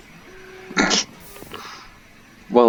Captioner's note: laughing